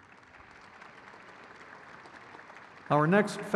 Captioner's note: crowd claps